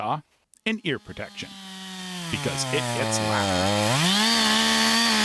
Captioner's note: chainsaw buzzing